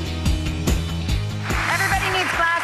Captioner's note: upbeat music; audience applauding